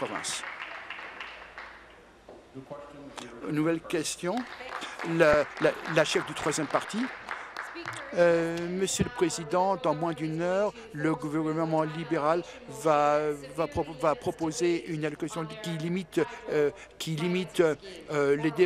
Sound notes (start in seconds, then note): 2.4 applause